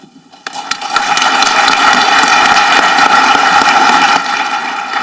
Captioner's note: audience clapping